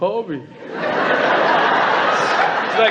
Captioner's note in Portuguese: Platéia ri